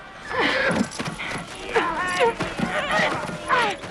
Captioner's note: raiders shouting; Hundra gasps